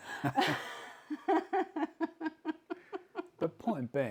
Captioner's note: laughing